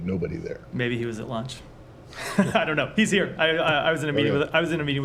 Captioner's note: laughter